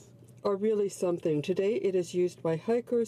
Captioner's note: speaking French